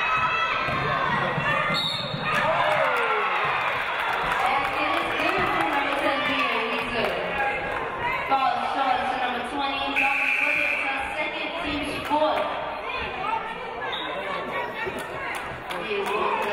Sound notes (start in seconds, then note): 1.7 referee blows whistle; 3.1 audience cheering; 13.9 referee blows whistle